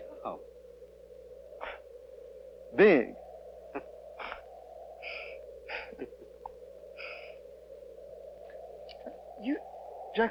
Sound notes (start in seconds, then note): 5.6 laughing